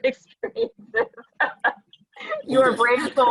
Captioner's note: laughing